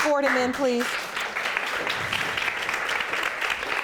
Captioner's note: audience applauding